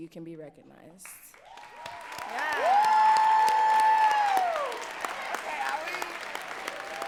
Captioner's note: audience cheering and clapping